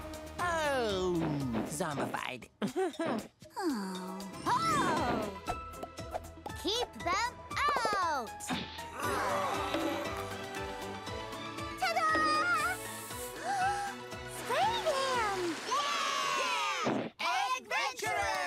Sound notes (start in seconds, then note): 2.6 chuckles; 8.9 groaning; 12.9 gasping; 15.4 all cheering